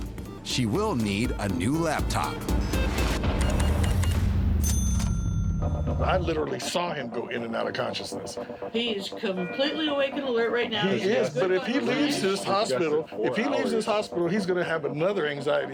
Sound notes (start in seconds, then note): 2.4 beeps; 4.5 register dings